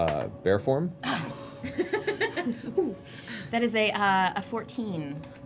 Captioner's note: laughs